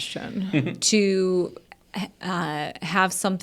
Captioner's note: chuckles